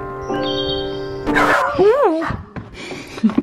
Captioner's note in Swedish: record scratch; hundarna skäller; skrattar